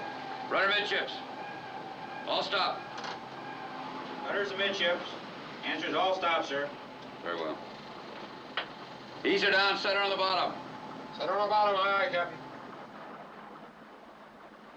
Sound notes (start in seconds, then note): none